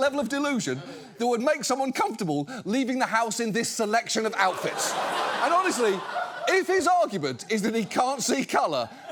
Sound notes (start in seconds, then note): 4.2 audience laughs